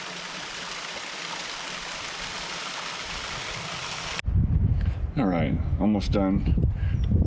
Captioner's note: water splashing